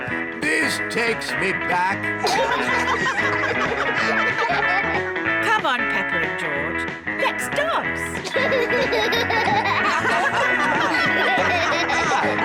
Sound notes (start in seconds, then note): 0.4 all giggle; 7.6 all laugh